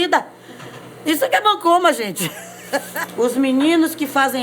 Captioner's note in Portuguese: risos